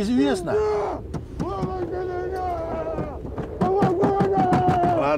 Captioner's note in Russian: голос из багажника